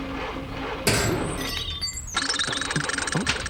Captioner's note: clunk!